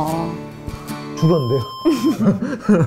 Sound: beep

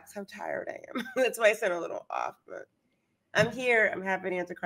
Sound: chuckles

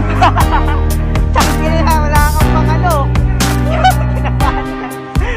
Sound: laughing while saying rude words

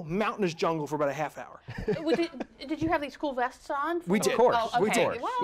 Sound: laughter

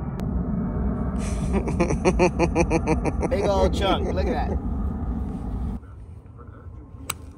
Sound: laughter

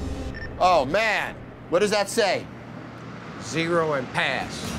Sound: intense music continues; monitor beeping

